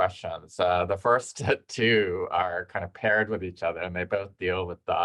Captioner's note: chuckles